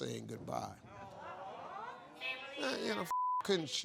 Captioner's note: crowd; beep